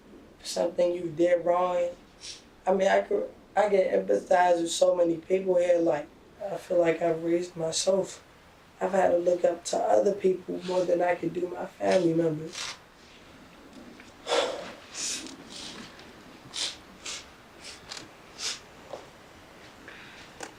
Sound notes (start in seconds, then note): 14.2 sigh; 16.4 sniffling and crying